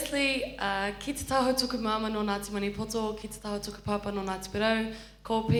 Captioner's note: speaks in foreign language